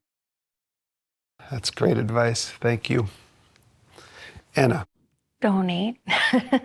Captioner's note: laughter